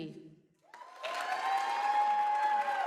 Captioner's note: applause